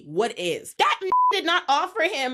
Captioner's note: beep